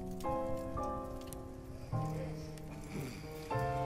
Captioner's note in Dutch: zachtjes snurken